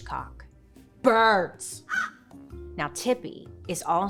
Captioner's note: crow cawing